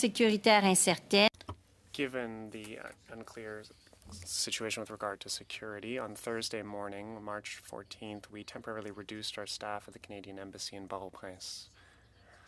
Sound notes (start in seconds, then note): 3.9 speaking French